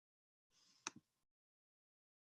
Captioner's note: click